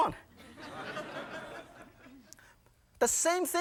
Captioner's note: audience laughing